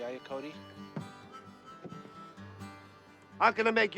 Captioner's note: honking horns